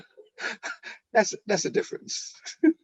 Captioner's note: laughing